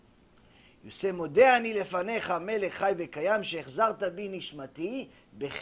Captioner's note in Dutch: hebreeuws gebed